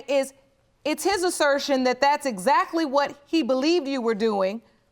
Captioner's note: none